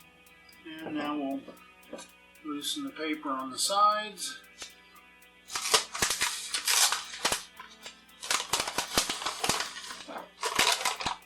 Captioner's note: sound of paper tearing